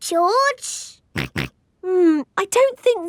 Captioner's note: snorts